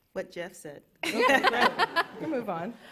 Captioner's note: laughter